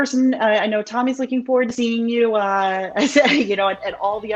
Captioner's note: chuckles